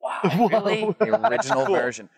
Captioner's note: laughs